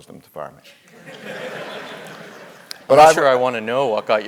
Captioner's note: laugh